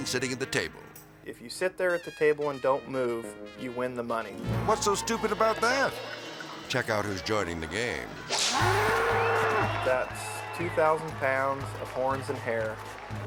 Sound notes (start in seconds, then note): 8.3 whip cracks; 8.5 bull bellows